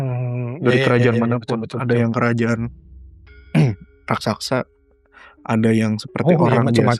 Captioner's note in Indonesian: berdehem